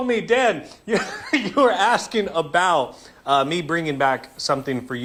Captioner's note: laughter